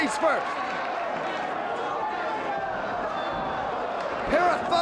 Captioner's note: audience applauds and cheers